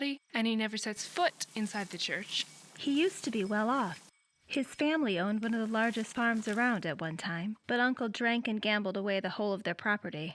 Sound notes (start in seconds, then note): none